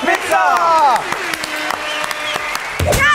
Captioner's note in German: Applaus, Tröten, Pfiffe